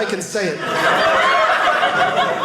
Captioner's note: audience laughing